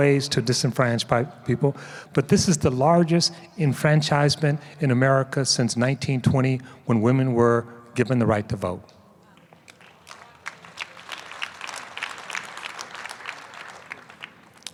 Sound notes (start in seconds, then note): 9.4 applause